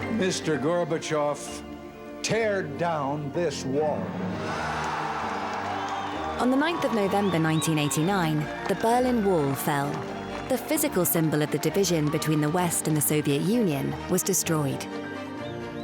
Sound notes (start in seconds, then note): 4.6 crowd cheers